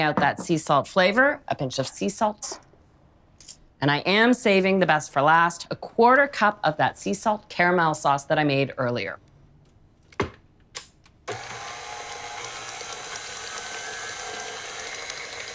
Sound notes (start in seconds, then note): 11.2 mixer whirs